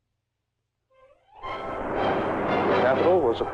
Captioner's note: soft dramatic music; traffic whirring